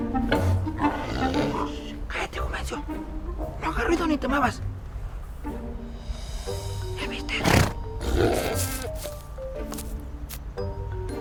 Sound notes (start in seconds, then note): 0.0 boar growl